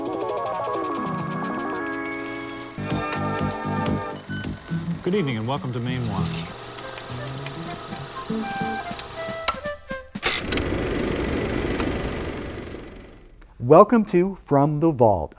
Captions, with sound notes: (mysterious music) - Good evening and welcome to Mainewatch (upbeat music) (projector clicking) Welcome to. From the Vault.